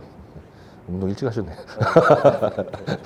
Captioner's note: awkward chuckle